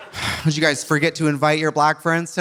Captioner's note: audience laughing; sighs